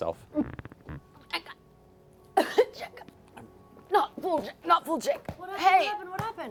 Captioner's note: coughing